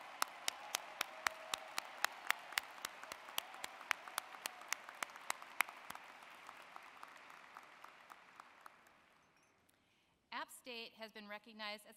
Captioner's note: applause